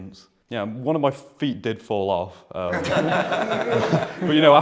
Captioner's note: laughter